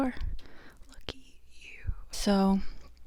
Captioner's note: whispered